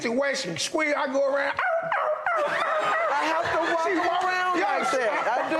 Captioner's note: yelping